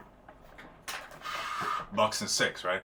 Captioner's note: exhale